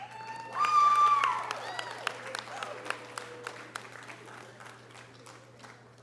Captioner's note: audience cheering and applause